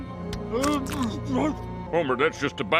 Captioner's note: Homer grunts